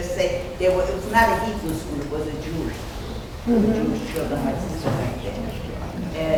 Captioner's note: speaking off mic and muffled